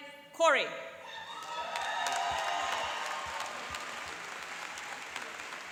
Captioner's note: cheering and applauding